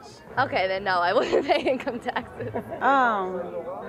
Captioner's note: smiling and giggling